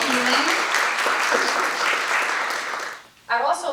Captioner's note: applause